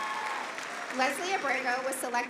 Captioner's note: applause